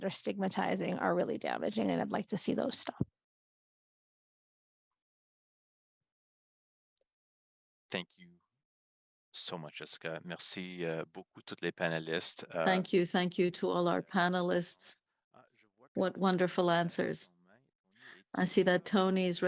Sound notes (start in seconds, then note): 10.9 speaking French